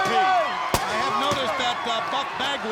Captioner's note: crowd cheering